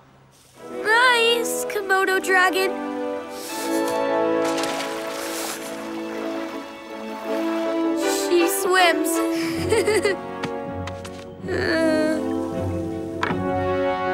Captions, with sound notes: Nice, Komodo Dragon. She swims. [giggling] Eh.